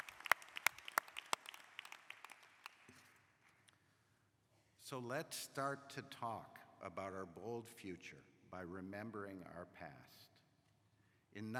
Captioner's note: applause